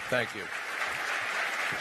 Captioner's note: applause